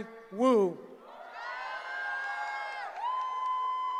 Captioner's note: cheering